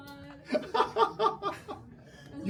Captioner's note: laughing